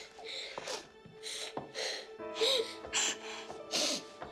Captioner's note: crying